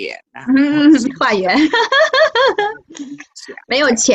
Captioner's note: ha ha ha